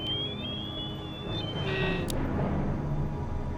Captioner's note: whistle; alarm